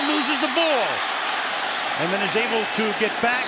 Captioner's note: cheering